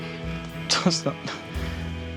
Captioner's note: laughs